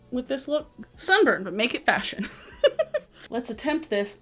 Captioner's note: laughs